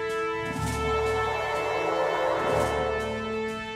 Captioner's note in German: Transportergeräusch